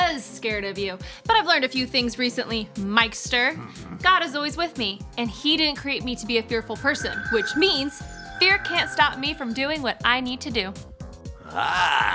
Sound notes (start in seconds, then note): 6.3 digital chiming